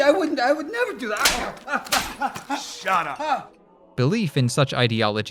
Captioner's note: slap, slap